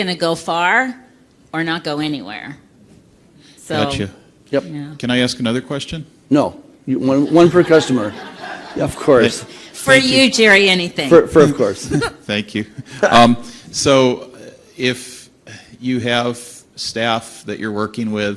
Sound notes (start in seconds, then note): 7.1 laughter